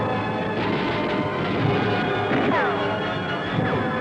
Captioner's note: machine gun fire rattling; bullets ricochet